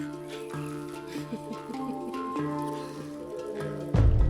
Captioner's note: chuckling